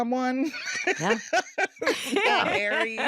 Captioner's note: laughter